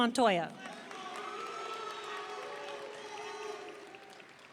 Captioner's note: audience cheering